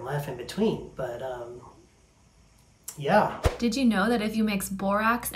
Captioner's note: voice-over